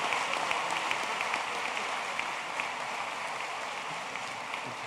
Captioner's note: applause